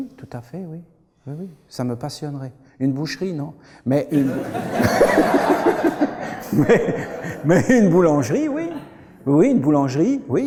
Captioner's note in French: Rires